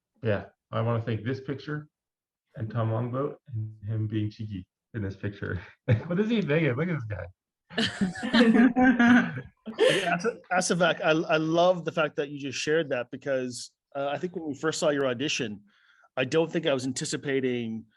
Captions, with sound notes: Yeah. I want to thank this picture and Tom Longboat and him being cheeky in this picture. What is he thinking? Look at this guy. (Laughter) Asivak, I love the fact that you just shared that because I think when we first saw your audition, I don't think I was anticipating